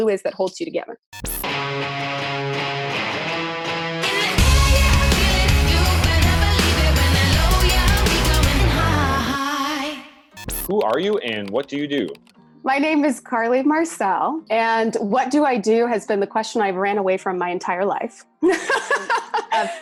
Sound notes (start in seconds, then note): 1.7 upbeat music; 19.1 laughing